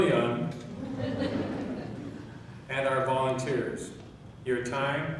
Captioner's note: laughing